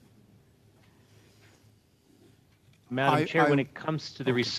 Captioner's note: speaking French